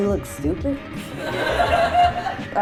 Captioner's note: laughter